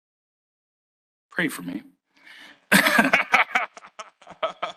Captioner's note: laughs